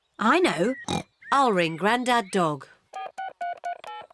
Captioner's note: snorts; buttons beeping; phone rings